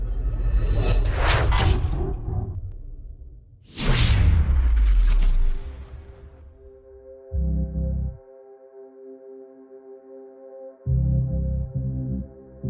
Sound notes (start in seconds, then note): 1.1 whip cracking; 6.8 dramatic music